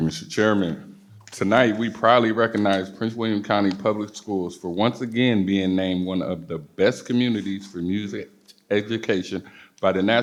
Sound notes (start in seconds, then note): none